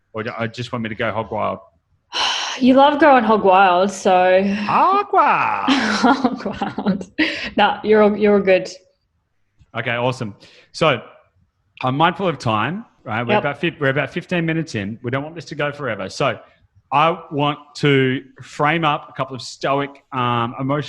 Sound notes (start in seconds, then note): 2.3 sighs; 5.6 laughs